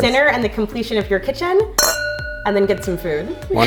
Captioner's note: glasses clink